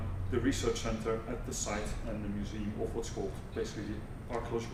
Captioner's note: non-english